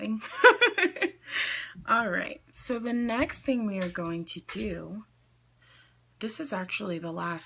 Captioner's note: laughs